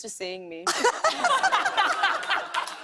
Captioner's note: laughter